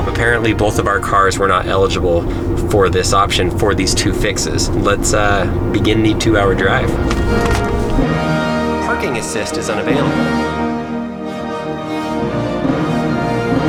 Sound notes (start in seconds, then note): 6.3 orchestral music; 9.1 car voice; 10.6 orchestral music